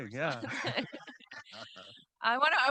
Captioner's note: audience and host laughing